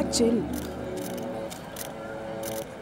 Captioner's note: Cameras flashing